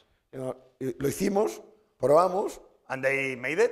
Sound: speaking spanish

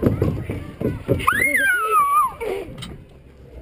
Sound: scream

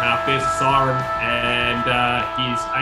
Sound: siren blares

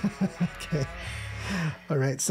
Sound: laughing

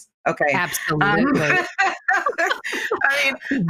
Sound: laughing

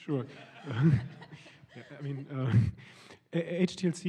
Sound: laughter

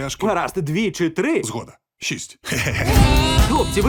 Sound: laughs

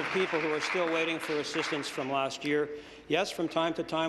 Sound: applause

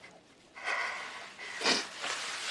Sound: Chas takes shallow breaths

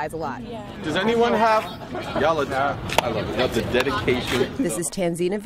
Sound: crowd noise

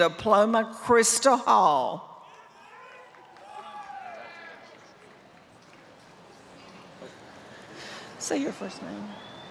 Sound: applause

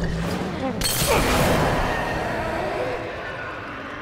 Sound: bottle shatters; Bloater shrieks

